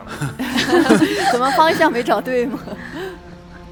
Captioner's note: laughs